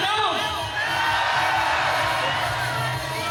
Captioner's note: audience cheers